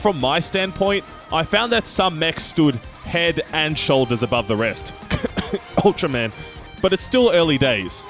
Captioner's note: cough